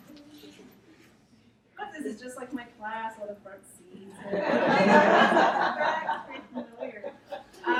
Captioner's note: audience laughs